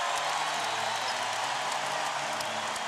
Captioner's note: cheering and whistling